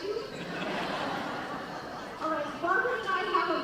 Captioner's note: laughing